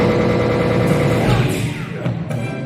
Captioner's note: gun fire